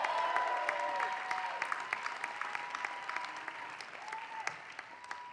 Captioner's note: applause